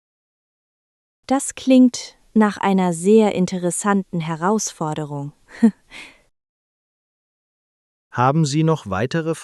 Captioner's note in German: lacht